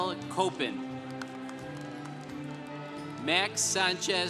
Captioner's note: congregation applauding